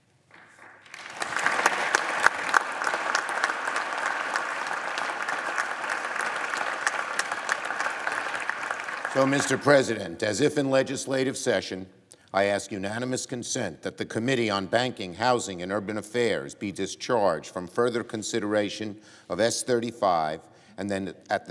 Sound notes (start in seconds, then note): 6.3 applause